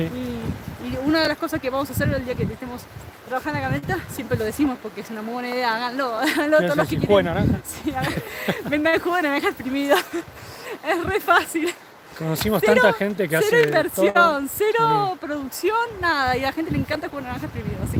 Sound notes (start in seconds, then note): 7.8 laughs